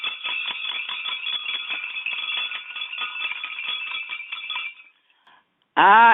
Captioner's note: bell rings